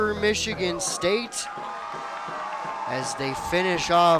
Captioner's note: crowd cheering